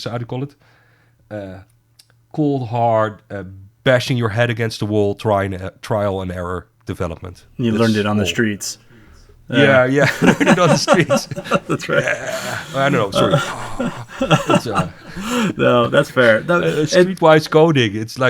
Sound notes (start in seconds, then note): 13.1 laughing